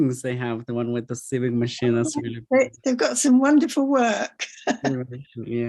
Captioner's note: laughs